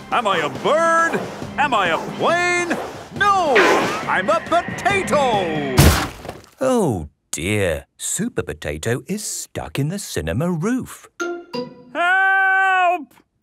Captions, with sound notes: - Am I a bird? Am I a plane? No, I'm a potato! (crashes) - Oh, dear. Supper Potato is stuck in the cinema roof. - Help!!